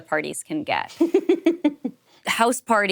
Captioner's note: chuckles